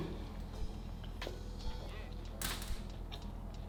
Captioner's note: chewing